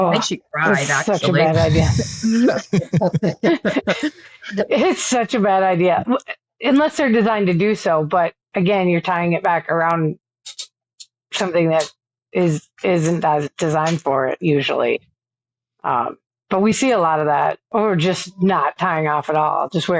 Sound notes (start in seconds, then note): 3.2 people laughing